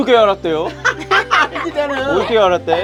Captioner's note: everyone laughing